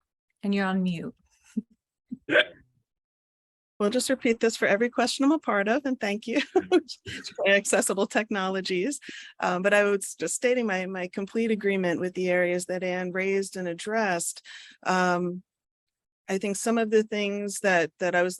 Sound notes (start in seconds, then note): 2.3 laughs; 7.0 laughs